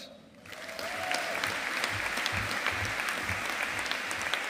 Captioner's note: audience applauding